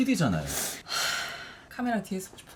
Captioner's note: sigh